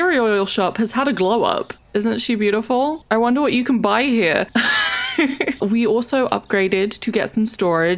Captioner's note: laughs